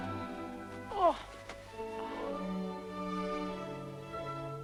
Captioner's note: Hundra groans